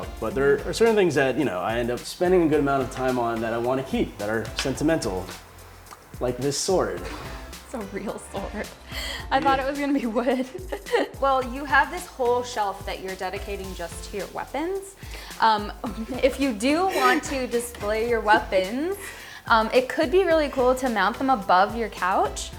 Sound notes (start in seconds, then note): 10.1 laughs